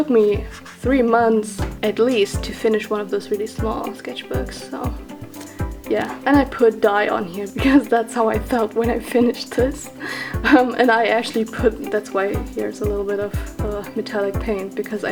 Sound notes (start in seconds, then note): 7.5 snorts; 10.4 laughs